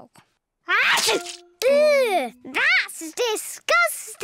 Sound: sneezes

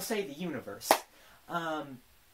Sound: BIG clap

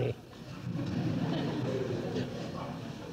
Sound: laughs; laughter

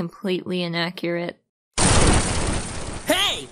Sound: explosion

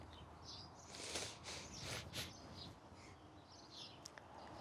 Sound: sniffles

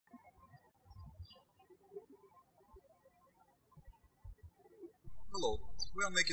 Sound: birds chirping

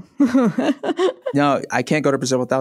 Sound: laughs

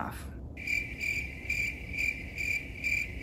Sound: crickets

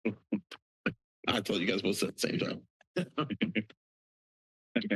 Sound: laughter

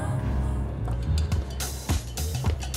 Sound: footsteps; upbeat pop music

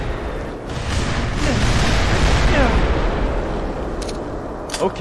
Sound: several explosions; explosion

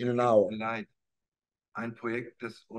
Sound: speaking german

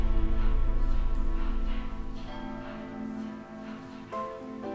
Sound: bell tolling

